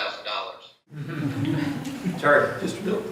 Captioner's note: laughter